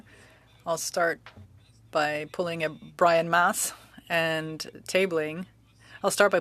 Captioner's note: speaking French